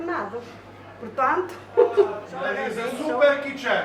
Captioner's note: laughs